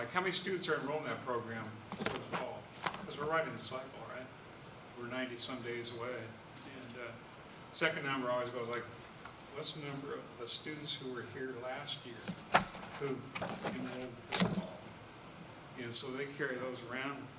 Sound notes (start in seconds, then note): 13.2 away from microphone